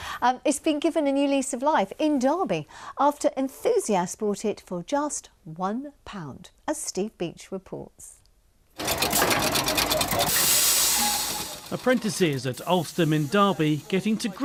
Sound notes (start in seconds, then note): 8.8 camshaft whirs and clunks